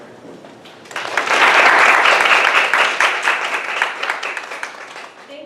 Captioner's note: applause